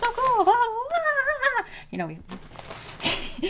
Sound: excited noises

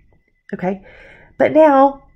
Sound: breathes softly

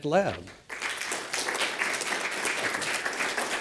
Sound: applause

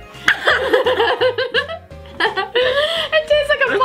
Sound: laughs

